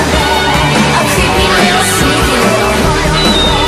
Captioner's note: boing!